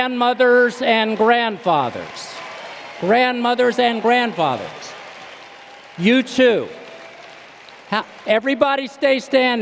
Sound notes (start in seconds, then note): 4.8 cheers and applause